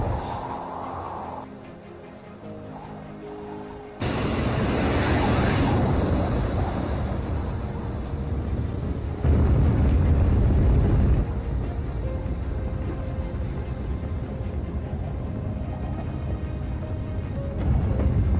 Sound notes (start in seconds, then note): 0.1 quiet wind noise; 4.0 rockets firing